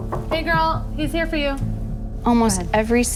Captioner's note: knock on door